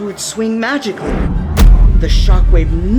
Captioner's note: magical reverberation